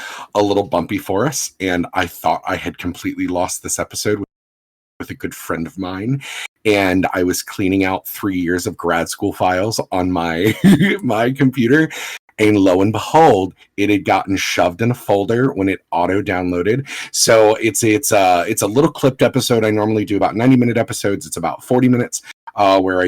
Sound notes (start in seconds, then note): 10.5 laughs